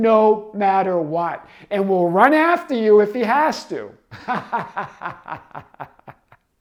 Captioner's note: laughs